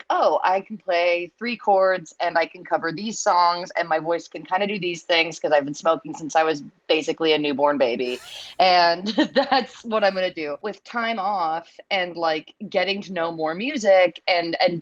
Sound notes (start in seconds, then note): 9.0 laughter